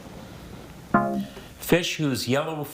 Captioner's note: tone clunks